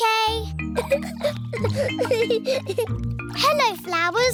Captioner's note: giggling